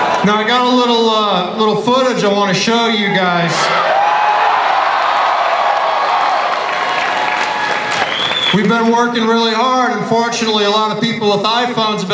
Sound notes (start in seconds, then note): 3.7 audience cheering and applause